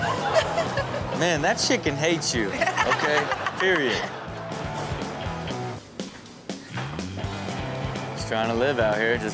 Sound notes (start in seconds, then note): 2.6 Chanel laughs; 4.4 upbeat music continues